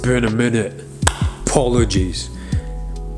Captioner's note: clapping